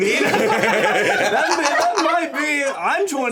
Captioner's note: everyone laughing